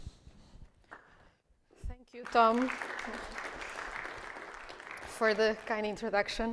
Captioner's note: audience applauds